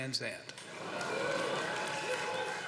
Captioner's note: audience "Oohs," cheers